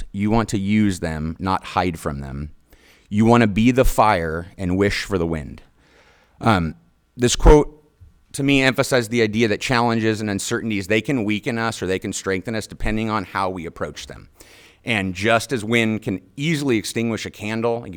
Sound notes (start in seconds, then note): none